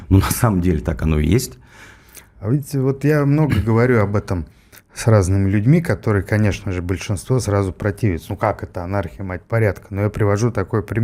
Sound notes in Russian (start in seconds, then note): 3.4 откашливается